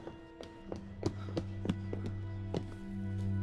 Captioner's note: panting; footsteps